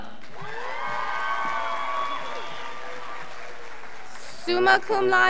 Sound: scholars applauding

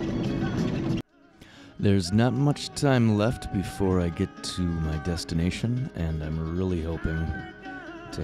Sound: voiceover

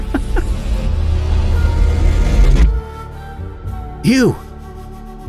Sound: Gareth chuckles, magic sound crescendos

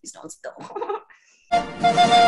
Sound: whimpers

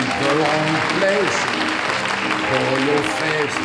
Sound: audience clapping; cheerful music

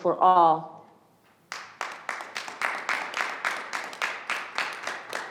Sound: audience clapping

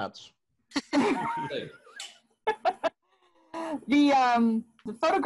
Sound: laughter

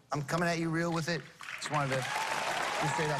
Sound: cheers and applause

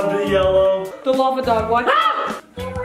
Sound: screams

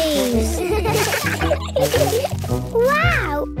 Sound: laughter

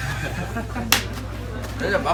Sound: burst out in laughter

